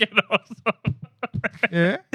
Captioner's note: laughing